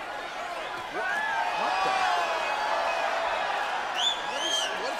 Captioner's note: crowd cheers